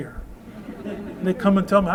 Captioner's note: laughter